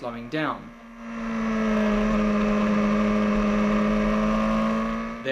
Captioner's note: bike engine roaring